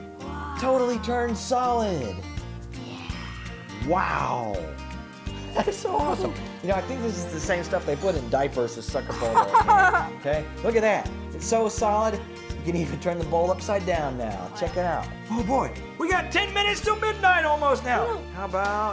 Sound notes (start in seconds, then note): 9.1 laughing